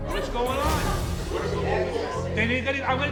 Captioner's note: audience murmuring